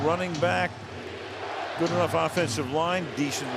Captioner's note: crowd chanting "defense"